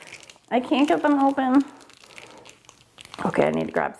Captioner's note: package crinkling